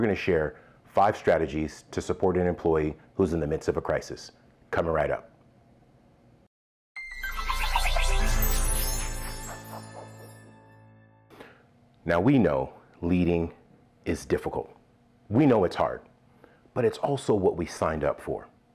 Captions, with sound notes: we're gonna share five strategies to support an employee who's in the midst of a crisis. Coming right up. (logo swoosh) Now we know leading is difficult, we know it's hard, but it's also what we signed up for.